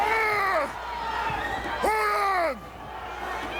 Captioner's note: Andre screams